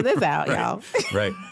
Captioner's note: laughter